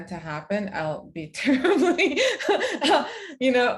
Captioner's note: chuckles